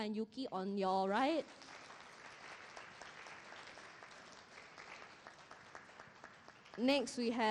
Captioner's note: applause